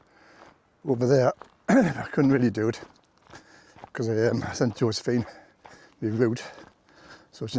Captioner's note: clears throat